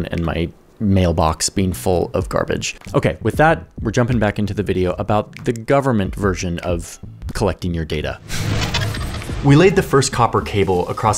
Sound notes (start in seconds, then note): 8.3 videotape clicks